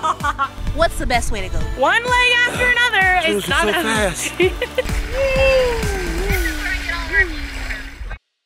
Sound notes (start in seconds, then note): 0.0 laughing; 2.3 laughing